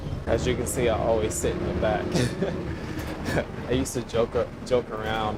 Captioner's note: laughs